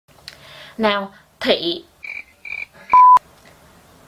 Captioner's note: cricket sound